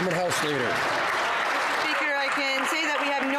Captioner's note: some Applause